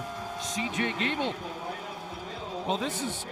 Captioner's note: crowd din